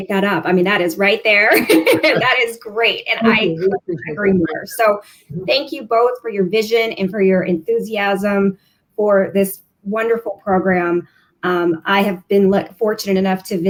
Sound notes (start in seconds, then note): 1.5 laughter